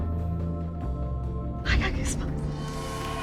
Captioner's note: whispers; music fades; cheering